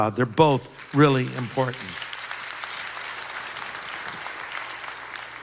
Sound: applause

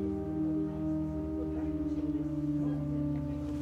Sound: indistinct chatter

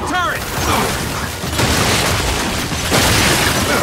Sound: gunshots

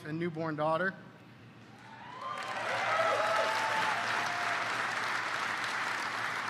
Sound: applause

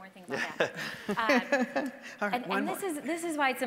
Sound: panelists laughing

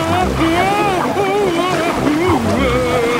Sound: Daddy Pig shouting

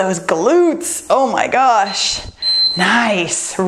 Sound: timer beeps

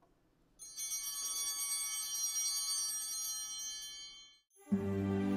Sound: chimes ringing

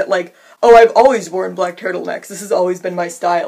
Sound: Mocking Elizabeth Holmes voice

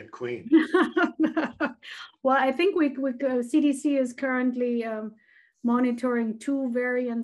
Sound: laughs

